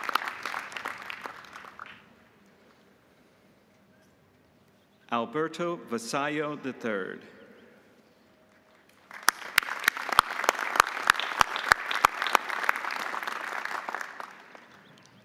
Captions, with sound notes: Alberto Vasallo III. (audience applauding)